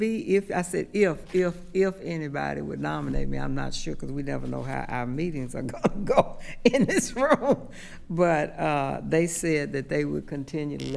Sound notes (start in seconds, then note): 7.3 laughing